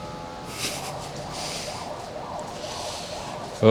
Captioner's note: chuckles